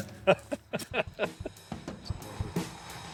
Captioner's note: laughs